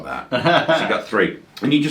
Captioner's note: laughs